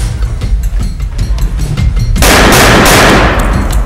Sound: shots continue to be fired

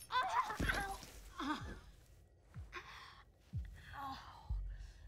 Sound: woman screams

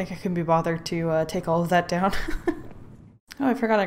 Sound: laughs

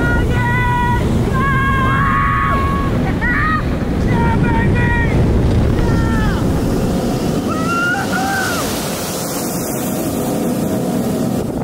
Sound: more screams

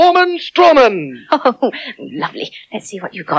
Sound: giggling

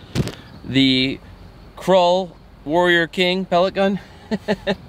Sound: laughing

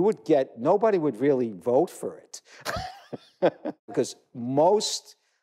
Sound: laugh

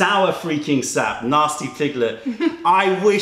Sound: laughter

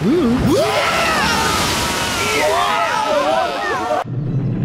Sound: all screaming; rumbling

